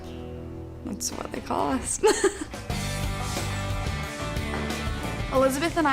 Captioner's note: laughs